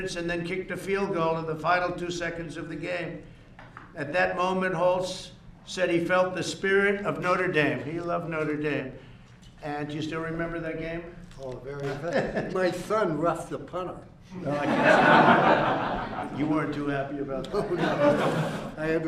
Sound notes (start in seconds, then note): 14.4 laughs; 14.4 laughter